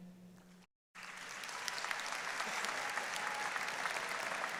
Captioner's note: audience applauding